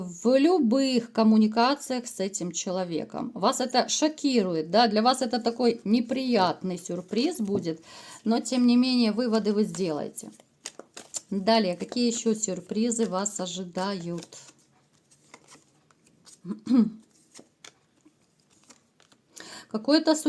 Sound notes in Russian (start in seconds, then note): 16.5 откашливается